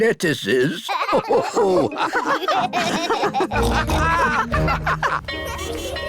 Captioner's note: all laugh